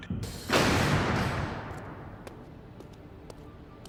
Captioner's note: doors closing